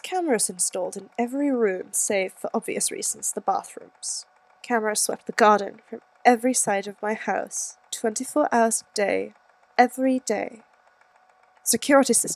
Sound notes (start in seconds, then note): none